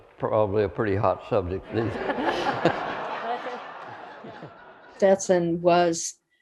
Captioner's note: laughter